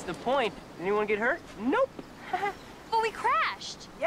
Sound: chuckles

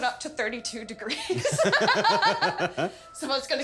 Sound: laughter

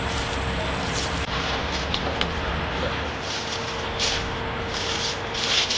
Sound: footsteps crunching

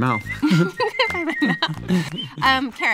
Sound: laughs

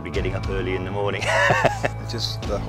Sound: laughs

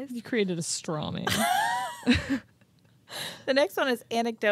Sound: chuckling

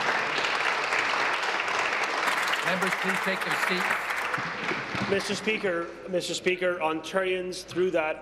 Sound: applause

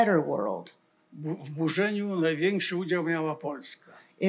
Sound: foreign language

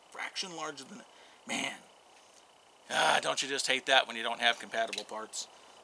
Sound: ugh!

